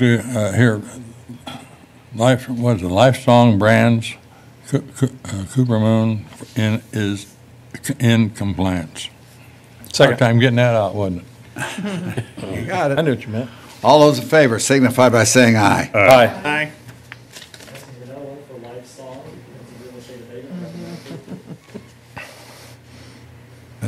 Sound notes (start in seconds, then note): 11.6 laughter